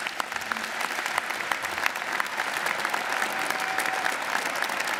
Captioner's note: audience applauding